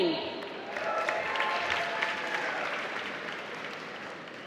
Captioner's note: applause